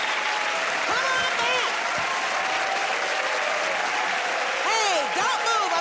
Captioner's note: cheers and applause